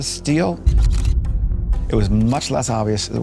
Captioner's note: camera shutters clicking